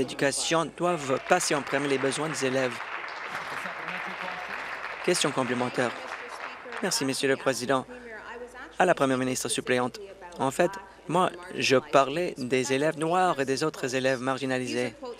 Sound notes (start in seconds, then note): 4.5 applause